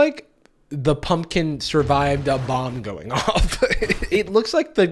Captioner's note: laughs